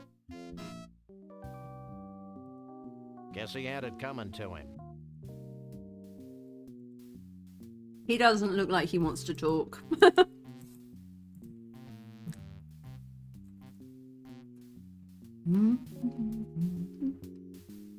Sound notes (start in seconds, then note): 9.8 laughing